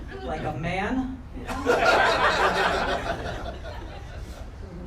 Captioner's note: crowd laughter